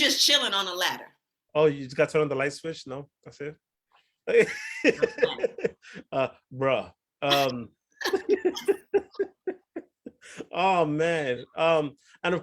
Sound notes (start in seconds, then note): 4.3 laughs; 8.0 both laugh